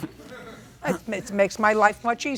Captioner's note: audience laughing